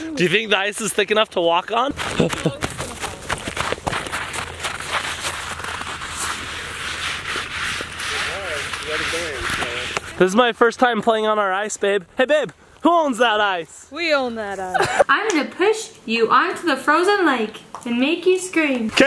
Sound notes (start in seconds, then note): 3.4 snow crunching